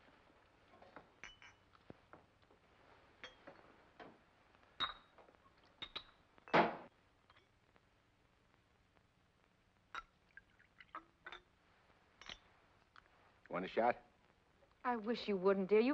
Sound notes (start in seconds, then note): 0.8 glass clinks; 10.0 liquid pours